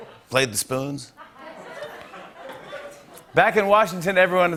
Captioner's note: laughter